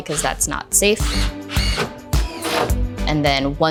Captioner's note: drill buzzing